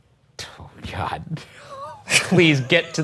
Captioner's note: chuckling